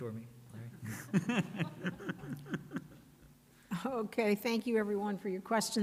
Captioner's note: laughing